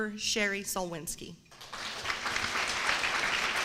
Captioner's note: applause